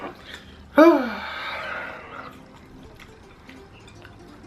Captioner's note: sighs